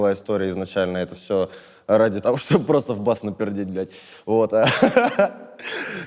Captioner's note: laughs